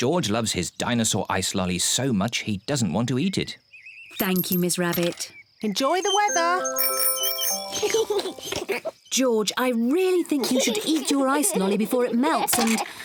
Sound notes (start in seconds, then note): 6.0 rings bell; 7.7 both giggle